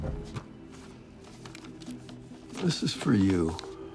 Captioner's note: paper rustling; dramatic music